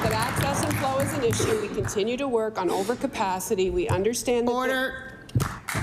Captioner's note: applause